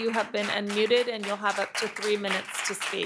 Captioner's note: applause